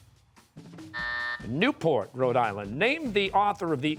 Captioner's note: buzzer